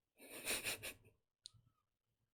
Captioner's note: laughs